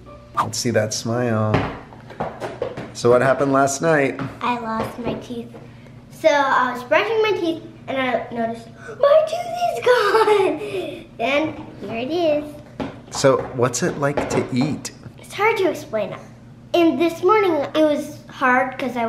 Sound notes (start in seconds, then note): 9.8 giggles